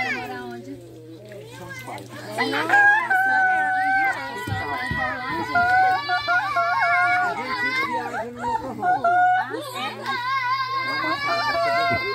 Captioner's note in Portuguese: gritaria e conversa